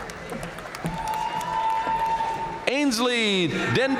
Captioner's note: audience cheering and applauding